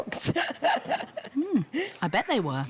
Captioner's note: laughs